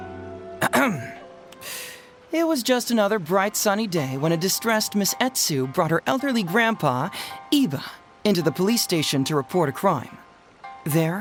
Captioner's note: clears throat